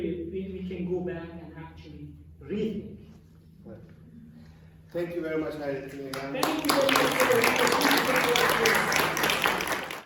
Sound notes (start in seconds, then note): 7.6 applause